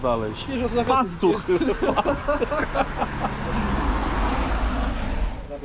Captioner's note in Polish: śmiech